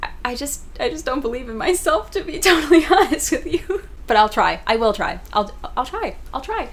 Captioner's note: laughing